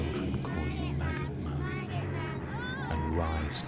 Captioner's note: children chanting